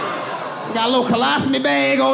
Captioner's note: all laughing